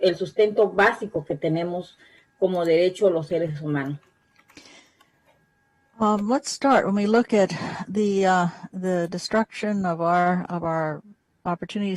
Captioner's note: spanish